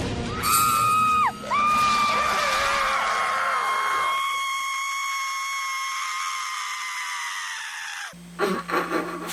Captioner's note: screaming; laughs quietly